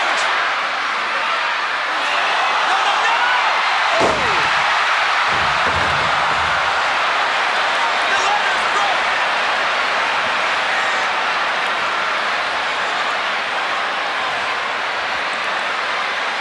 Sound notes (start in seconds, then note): 3.9 Razor Ramon thudding; 3.9 Shawn thudding; 5.3 crowd cheering; 9.9 crowd cheering continues